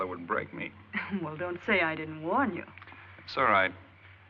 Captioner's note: chuckles